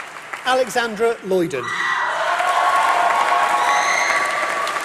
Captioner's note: applause